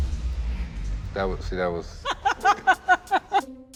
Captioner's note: laughs